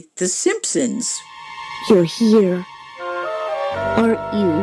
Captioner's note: soundbite of tv show, "the simpsons"